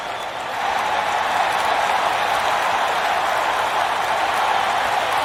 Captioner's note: crowd cheering